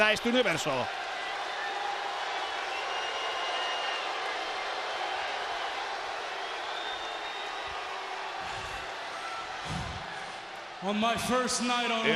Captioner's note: applause